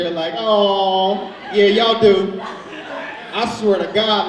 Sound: audience laughs

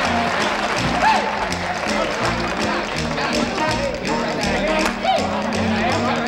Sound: players chatter

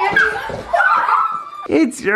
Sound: children squealing

